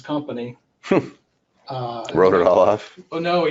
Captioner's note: person chuckles